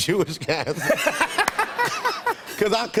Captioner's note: laughter